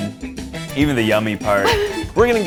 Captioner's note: receptionist laughs